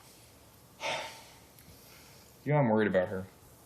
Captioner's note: sighs